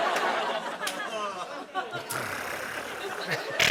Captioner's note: imitates clicking